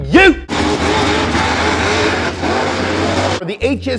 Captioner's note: engine revving